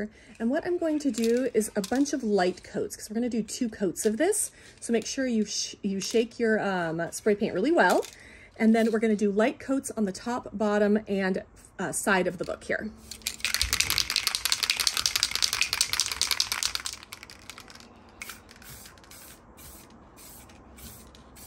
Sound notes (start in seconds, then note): 13.4 ball clacking; 18.6 paint whooshing